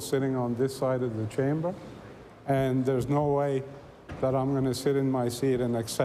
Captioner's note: none